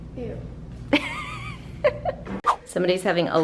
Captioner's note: mom chuckling